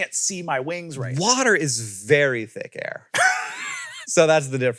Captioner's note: laughs